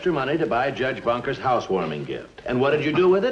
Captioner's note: none